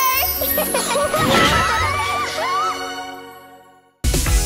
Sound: laughter

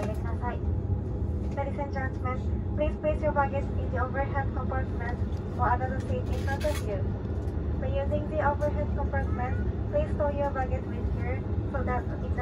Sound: the same in-flight announcement is being broadcast in English

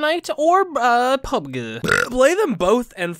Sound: le burp

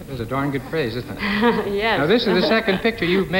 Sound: laughing

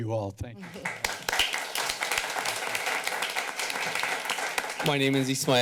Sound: clapping

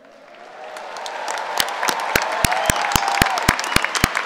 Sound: cheering and applauding

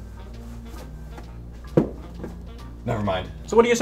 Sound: pumpkins thudding

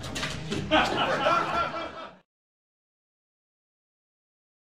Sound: laughing

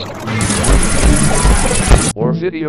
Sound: the sounds of hell

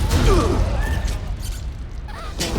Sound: crowd gasps; sneezes

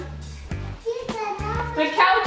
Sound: baby talk

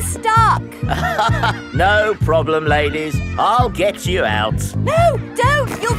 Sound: chuckles

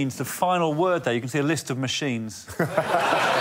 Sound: audience laughs

